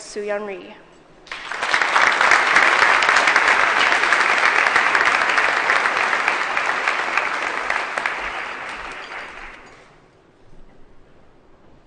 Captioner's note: applause